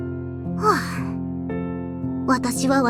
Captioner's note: sigh